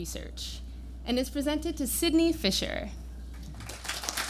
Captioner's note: applause